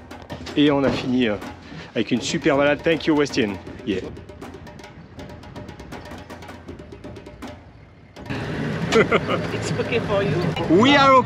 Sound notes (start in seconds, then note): 8.8 laughs